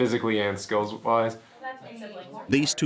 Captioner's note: family chattering